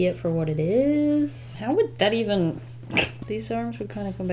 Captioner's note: chuckles